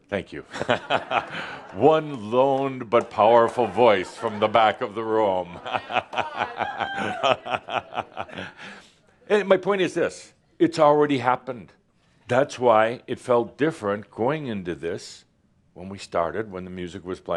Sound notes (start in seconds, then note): 0.5 laughter; 5.5 chuckles